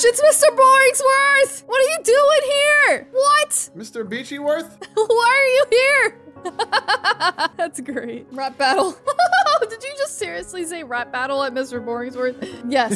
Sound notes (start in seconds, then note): 6.4 laughs